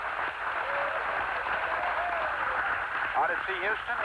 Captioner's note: muffled applause and cheers through static